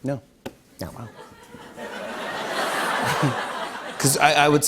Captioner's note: laughter